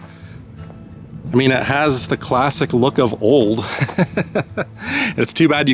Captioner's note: laughter